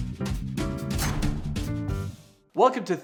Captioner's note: energetic jazz music; heavy object thudding